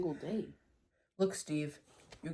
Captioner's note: sighs